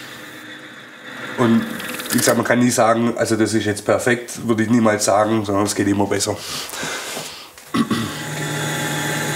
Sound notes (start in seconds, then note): 7.6 he clears his throat